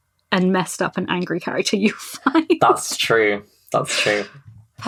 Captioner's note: laughs